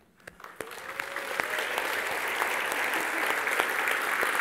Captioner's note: Applaus